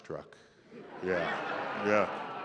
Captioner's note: laughter